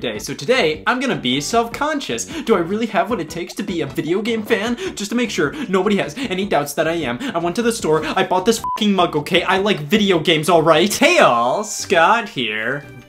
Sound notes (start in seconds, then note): 8.6 beep